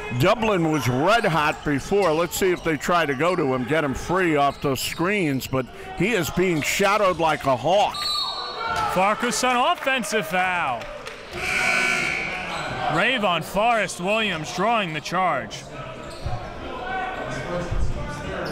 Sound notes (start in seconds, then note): 8.0 whistle blows; 11.3 buzzer sounds